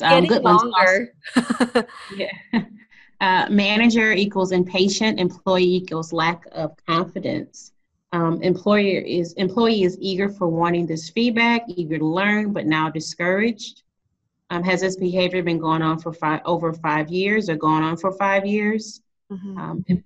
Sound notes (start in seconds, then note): 1.2 laughing